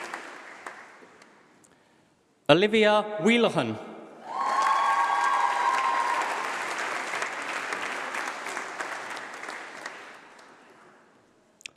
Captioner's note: applause